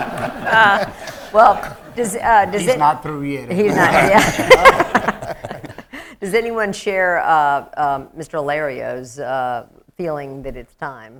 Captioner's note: laughter